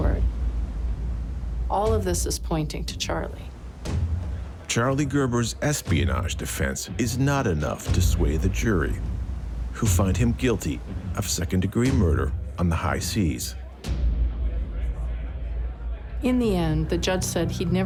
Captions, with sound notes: who find him guilty of second degree murder on the high seas. (people chatting) - In the end the judge said he'd never seen a honeymoon that ended in such a chilling and heartless manner. He called Ashley's murder one of the cruelest crimes he'd ever seen.